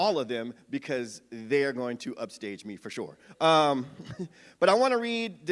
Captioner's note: chuckles